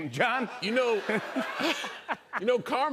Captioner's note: laughter